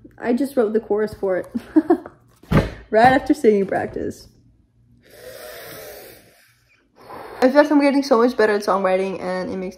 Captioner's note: laughs